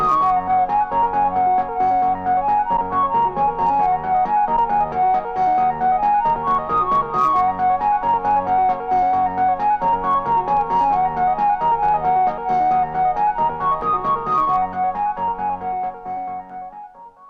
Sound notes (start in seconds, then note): none